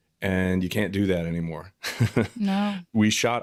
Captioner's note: chuckles